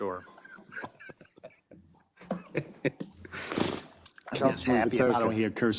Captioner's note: council members laughing